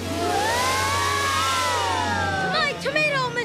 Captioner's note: screaming